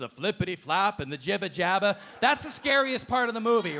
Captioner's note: audience laughing